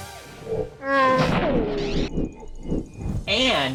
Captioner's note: whirring